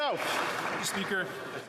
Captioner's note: some Applause